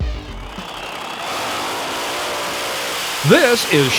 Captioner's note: engines roar